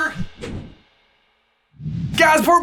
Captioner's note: logo whooshing